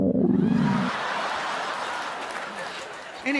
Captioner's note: loud stomach grumbling